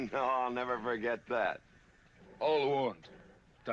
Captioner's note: chuckling